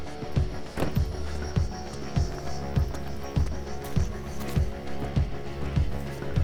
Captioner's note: stirring music continues; door shutting